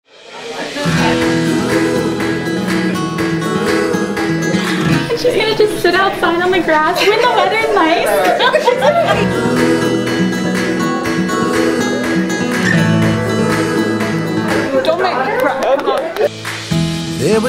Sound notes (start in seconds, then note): 0.0 light music; 8.2 laughter; 9.4 light music